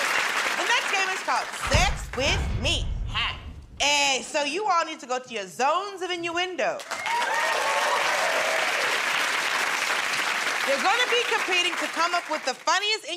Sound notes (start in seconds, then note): 9.1 cheers and applause